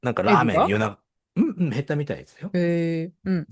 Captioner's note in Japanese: 咳払い